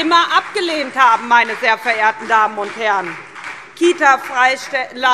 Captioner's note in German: Beifall SPD